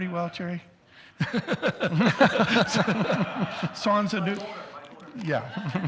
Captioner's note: both laugh